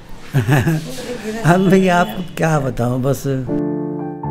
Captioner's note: laughs